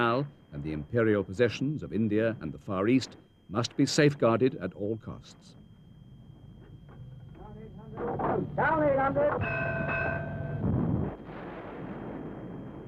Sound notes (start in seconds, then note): 8.2 seamen shouting